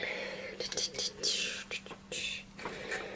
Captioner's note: random attempts at beatboxing sounds